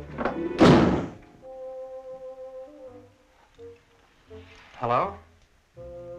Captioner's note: door slamming aggressively